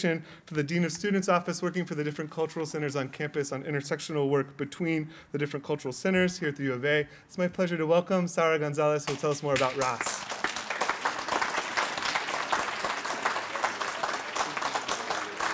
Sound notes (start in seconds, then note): 11.2 applause